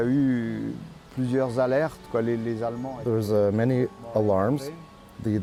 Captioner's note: speaking foreign